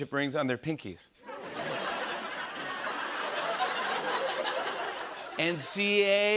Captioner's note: laughter